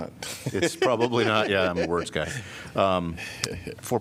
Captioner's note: laughter